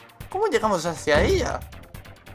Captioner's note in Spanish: golpe metalico